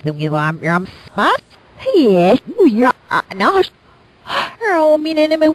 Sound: gasp!

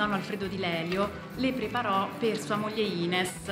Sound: speaking Italian

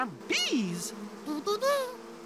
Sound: buzzing

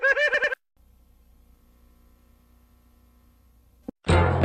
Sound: cartoon sounds; VHS static; cartoon music plays

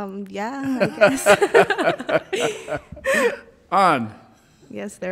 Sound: all laughing loudly

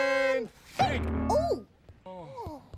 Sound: thud

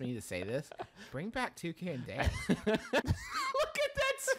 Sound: laughter

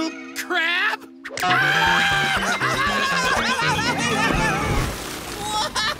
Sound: screaming

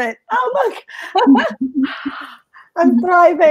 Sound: laughs

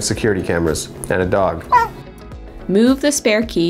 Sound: dog barking

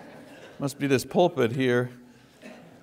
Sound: congregation laughs

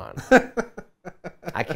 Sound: laughs

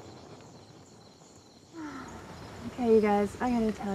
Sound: sighs

